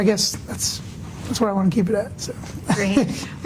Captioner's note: laughs